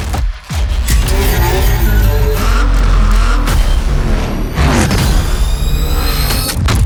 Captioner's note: zipper zipping; intense music continues; engine roaring; gears shifting